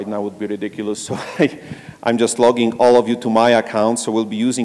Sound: laugh

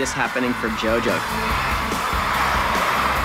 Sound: crowd cheering

